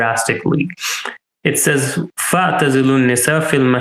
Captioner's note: speaking in Arabic